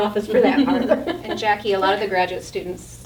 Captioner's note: all laughing